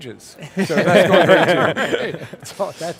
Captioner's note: laughing